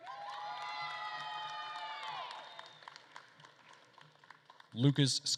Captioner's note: attendees cheering and applauding